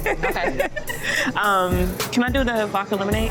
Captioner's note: laughter